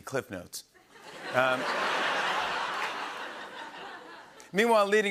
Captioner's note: laughter and applause